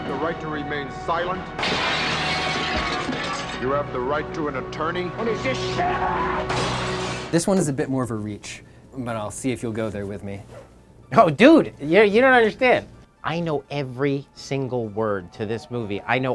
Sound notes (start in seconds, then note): 1.5 glass crashes; 5.8 screams; 6.5 glass crashes